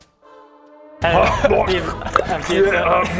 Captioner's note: innocent chewing noises